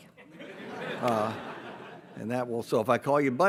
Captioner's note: audience laughs